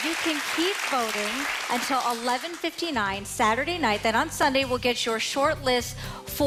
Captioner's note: applause